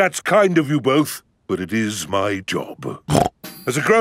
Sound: snorts

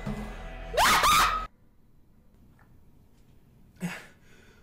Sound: exclaims

